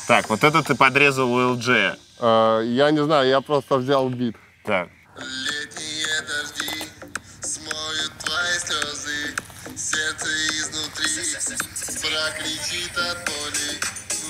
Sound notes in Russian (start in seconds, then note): 5.2 голос с автотюном